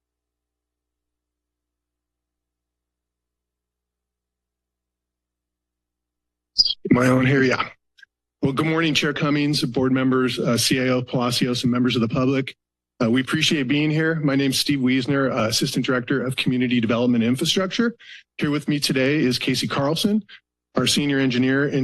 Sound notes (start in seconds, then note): 0.0 silence; 3.9 silence